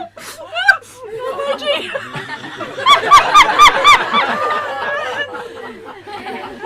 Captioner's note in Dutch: Vraagsteller lacht onbedaarlijk